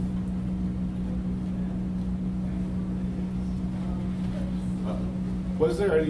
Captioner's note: background chatter